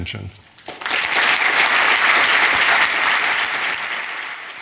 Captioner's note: audience applauding